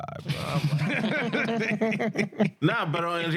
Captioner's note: laughing